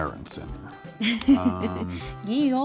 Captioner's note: laughs